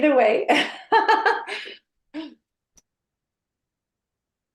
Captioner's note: laughing